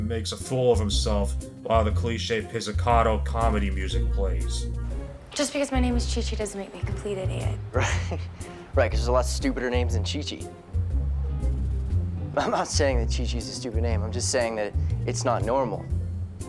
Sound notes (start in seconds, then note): 7.7 laugh